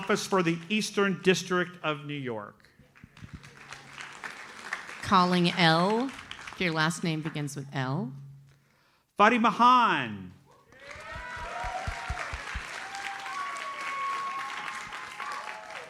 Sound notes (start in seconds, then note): 2.9 audience applauds; 10.6 audience cheers and applauds